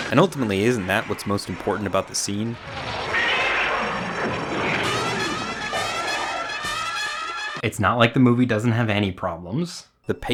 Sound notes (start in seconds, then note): 2.5 dinosaur roaring; 3.8 dramatic music